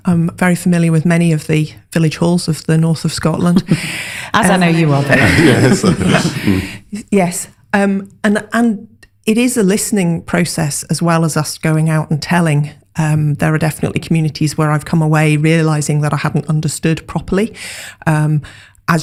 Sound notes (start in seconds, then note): 5.0 laughter